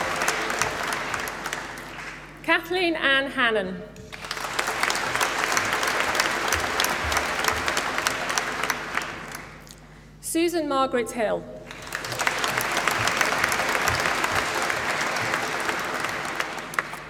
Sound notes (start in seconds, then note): 0.0 applause; 4.0 applause; 11.6 applause